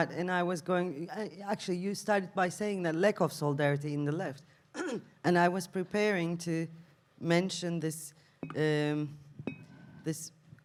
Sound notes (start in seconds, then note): 4.7 clears throat